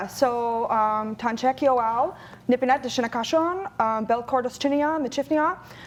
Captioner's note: speaking in foreign language